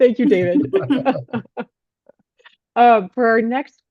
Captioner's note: laughs